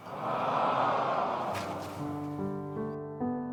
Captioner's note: audience moans; sad music